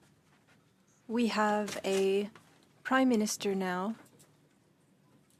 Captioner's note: speaking French